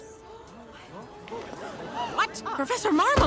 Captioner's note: crowd gasps